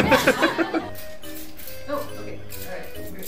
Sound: people laughing; water spraying

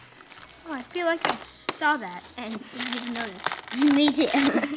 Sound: wrapper crinkles

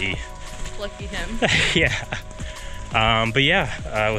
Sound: chuckles

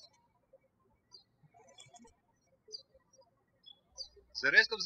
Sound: bird chirping

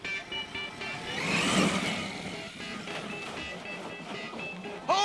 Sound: engines revving

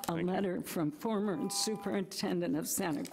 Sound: buzzer rings

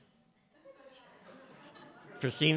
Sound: laughter

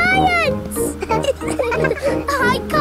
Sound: all laughing

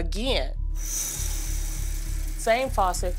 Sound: water running

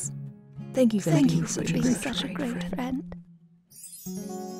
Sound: voiceover

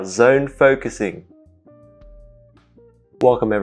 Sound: awkward pause

